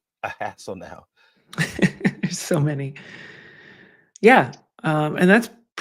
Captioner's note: chuckles